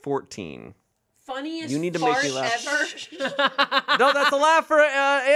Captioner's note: laughs